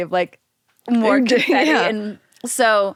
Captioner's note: laughs